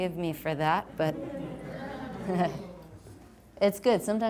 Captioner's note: audience laughs